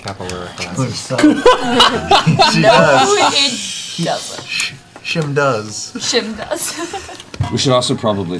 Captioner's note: laughter